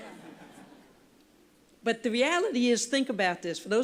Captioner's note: laughter